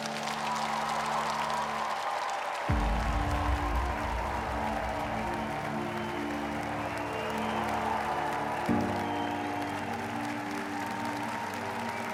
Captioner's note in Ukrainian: оплески